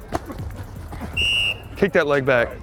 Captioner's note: whistle blows